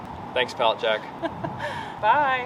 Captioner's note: laughs